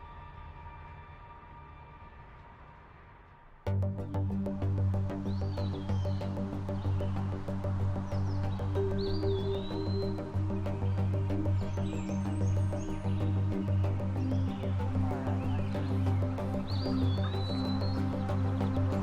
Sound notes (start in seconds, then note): 4.8 birds tweeting; 4.8 tense expectant music